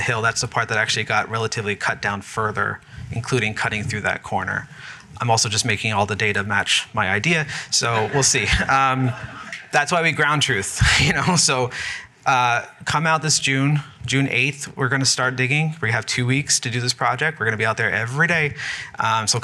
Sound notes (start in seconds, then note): 7.8 laughter